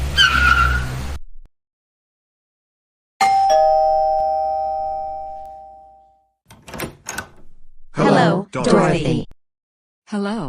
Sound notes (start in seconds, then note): 3.2 doorbell rings; 6.4 door opens